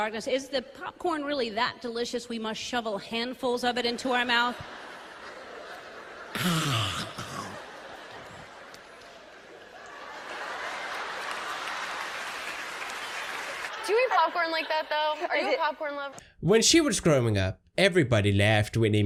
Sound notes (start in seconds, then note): 7.4 laughter and applause